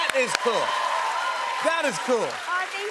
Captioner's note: cheers and applause